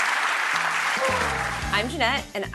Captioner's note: applause